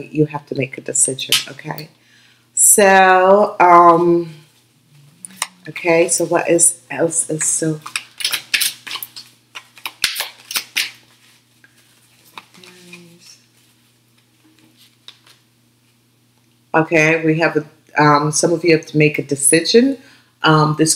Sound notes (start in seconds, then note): 9.4 shuffling cards